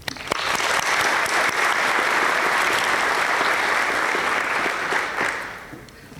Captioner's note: applause